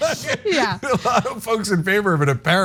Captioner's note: laugh